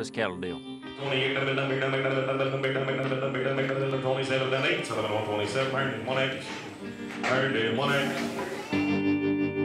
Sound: auctioneer speaking rapidly

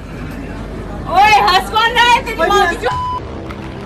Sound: morse code

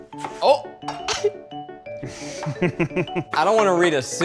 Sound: chuckling

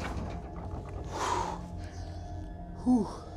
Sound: exhale

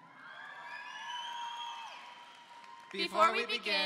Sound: audience cheering

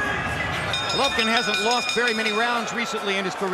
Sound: bell dinging

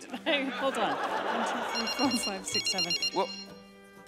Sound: phone beeps

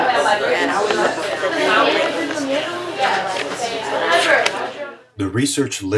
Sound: classroom chatter

